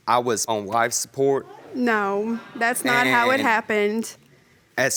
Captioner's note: stammering